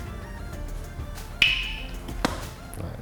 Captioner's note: crack